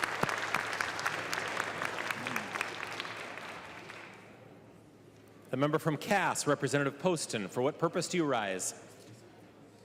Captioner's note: applause